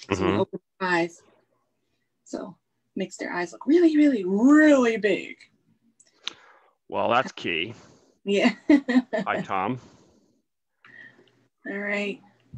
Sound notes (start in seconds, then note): 8.2 laughs